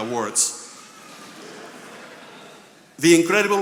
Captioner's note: attendees laughing